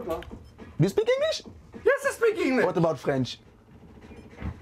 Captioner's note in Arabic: الصوت المنطوق باللغة الإنجليزية